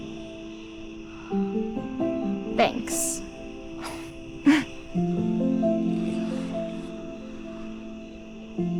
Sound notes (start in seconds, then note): 4.3 crickets chirping; 4.3 gentle music